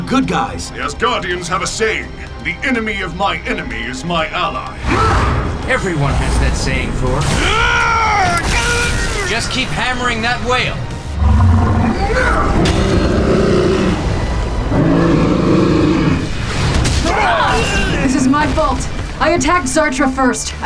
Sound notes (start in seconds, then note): 7.7 zapping; 11.1 roars